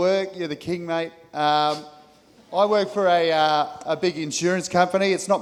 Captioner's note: audience laughing